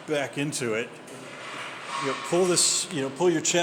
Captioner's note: heavy weight clatters